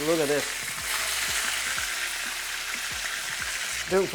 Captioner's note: sizzling sound